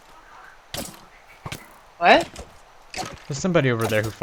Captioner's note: stompy